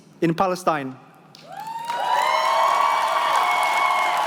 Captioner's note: cheering